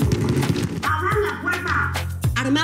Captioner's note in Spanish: Toques en la puerta